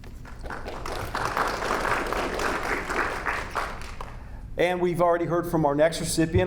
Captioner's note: audience applauding